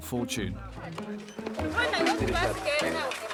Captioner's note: Portuguese spoken audio